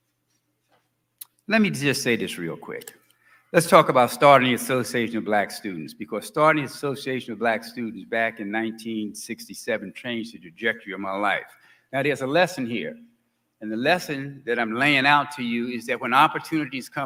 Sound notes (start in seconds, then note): none